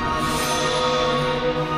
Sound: ringing; mystical music continues

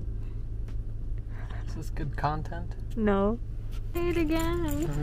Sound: laughs

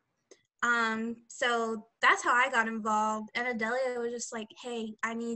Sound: none

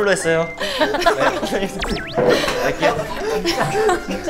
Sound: haha

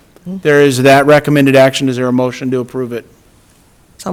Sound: none

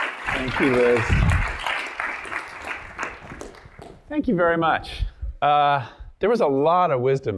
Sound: applause

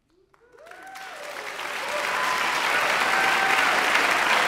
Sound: audience applauding

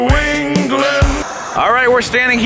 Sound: static hissing

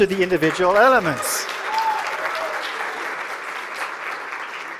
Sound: cheering and applause

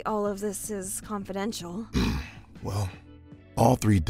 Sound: clears throat

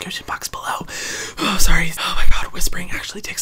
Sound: exhales

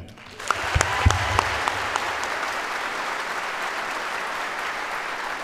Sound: audience applauds

